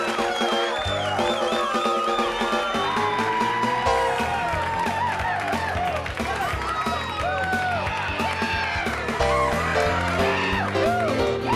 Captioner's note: crowd cheering